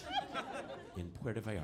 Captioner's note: audience laughing